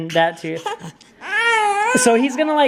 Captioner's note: crying